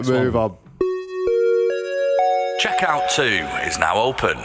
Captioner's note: chime